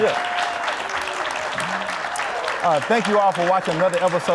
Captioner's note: audience applauding